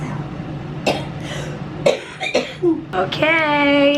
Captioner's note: coughing